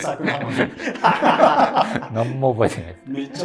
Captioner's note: laughing